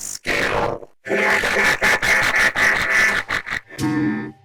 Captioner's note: 4 Robots laughs at him